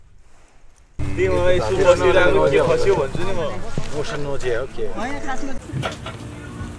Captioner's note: indistinct conversations